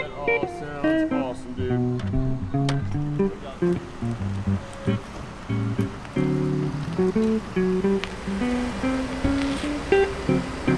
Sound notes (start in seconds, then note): 0.0 group murmuring; 3.4 gentle music continues; 6.5 engine rumbling